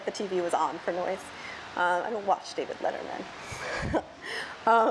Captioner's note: laughs